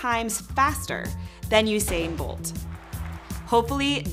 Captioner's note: crowd cheering